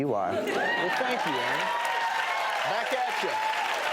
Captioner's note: applause and cheering